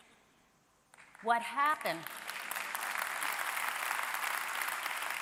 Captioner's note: audience applauding